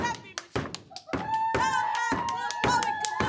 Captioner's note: students cheer